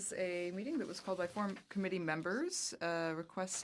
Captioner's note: speaking French